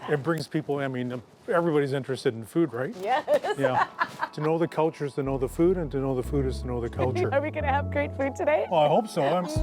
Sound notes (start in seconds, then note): 3.1 laughs